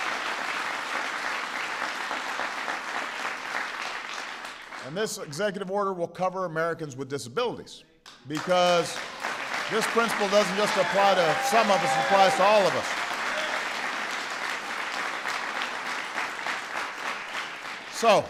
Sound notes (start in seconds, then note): 3.1 applause; 7.0 applause; 16.3 applause